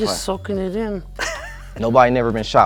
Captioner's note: laughs